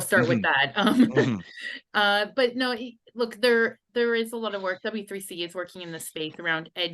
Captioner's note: laughs